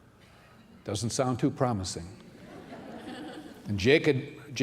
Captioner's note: laughter